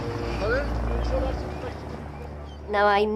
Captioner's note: birds squealing; boat droning